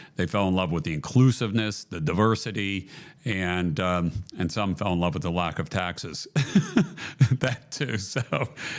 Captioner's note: laughs